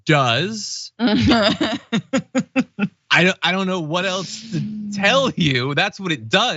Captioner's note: laugh